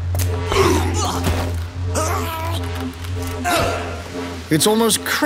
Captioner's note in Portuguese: gemidos